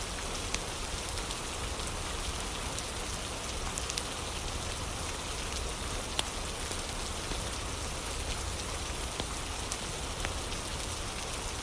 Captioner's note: fire crackling